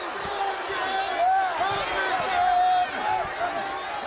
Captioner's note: crowd chatter